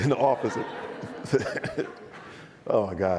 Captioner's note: audience laughs